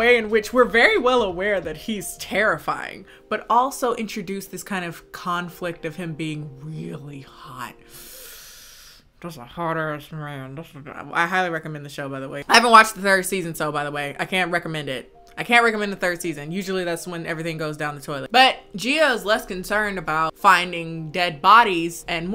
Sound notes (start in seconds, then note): 7.9 inhales loudly